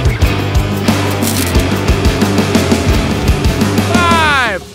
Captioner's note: heavy rock music continues; sparks sizzle